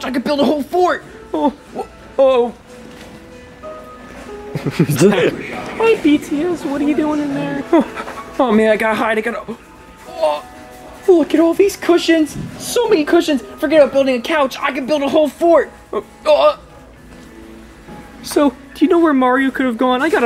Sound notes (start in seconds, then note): 2.8 film crew laugh; 2.8 piano music